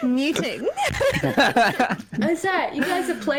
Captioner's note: giggles; laughs; giggle